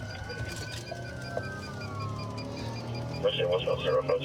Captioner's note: sirens wailing